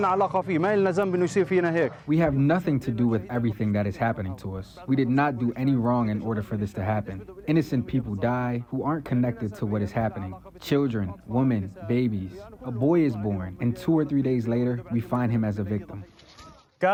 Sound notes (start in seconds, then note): 2.5 through translator